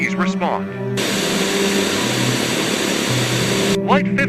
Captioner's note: Static